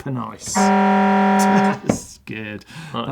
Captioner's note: alarm